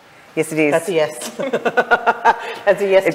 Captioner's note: group laughs